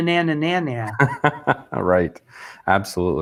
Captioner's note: laughs